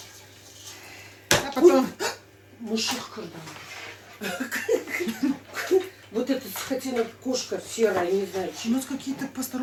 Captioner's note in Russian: смех